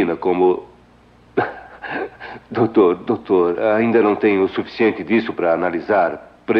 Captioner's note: chuckles